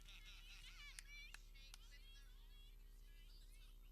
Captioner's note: people clapping